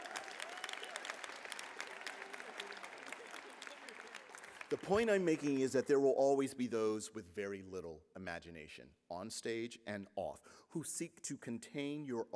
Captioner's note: applause